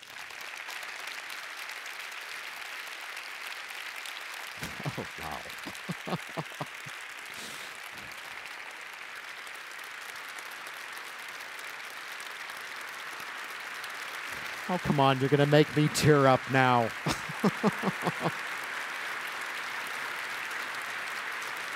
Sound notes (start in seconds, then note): 0.1 applause; 16.8 chuckles